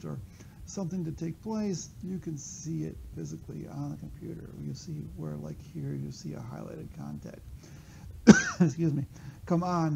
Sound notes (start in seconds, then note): 8.2 coughs